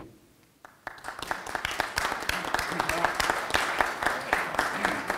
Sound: audience applauding

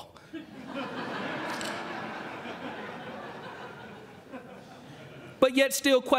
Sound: laughter

